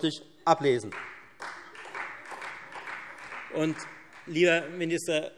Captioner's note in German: Beifall Freie Demokraten